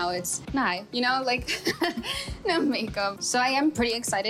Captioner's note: laughs